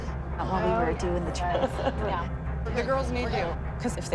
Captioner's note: laughs